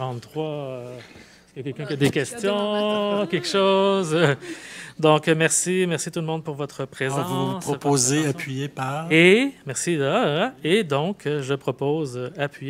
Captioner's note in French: rires